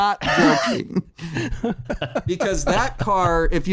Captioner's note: laughter